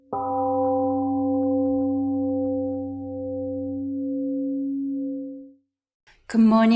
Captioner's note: temple gong rings and fades